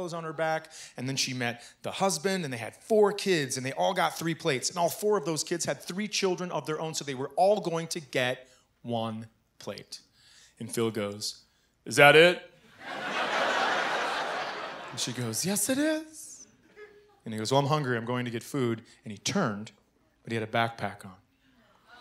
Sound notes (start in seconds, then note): 12.7 laughter